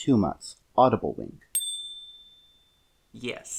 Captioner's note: winking sound effect